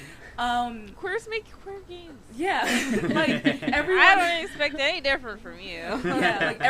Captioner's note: laughter